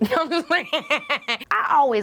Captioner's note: laughing